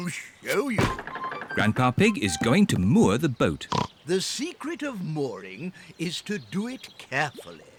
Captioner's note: oinks